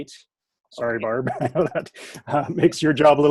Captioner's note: chuckles